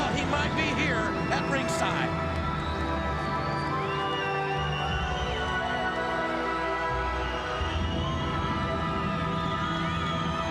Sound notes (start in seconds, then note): 6.6 audience cheering